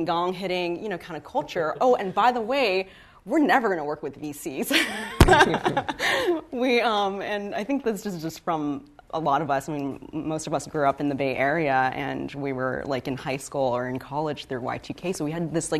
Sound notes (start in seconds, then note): 4.7 laughter